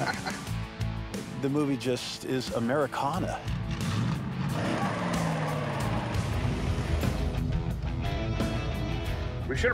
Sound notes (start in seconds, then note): 3.4 engine roaring